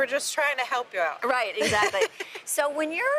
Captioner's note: laughs